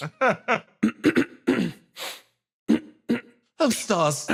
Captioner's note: laugh; clears Throat